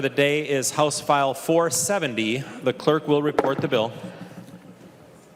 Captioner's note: gavel